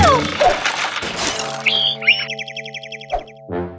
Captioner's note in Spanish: Sonido de pájaro